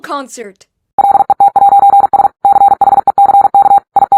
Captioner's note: robot beeping